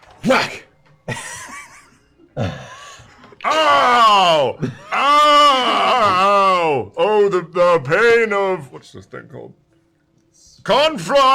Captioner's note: melodramatic groaning